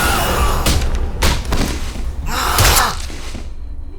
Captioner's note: screaming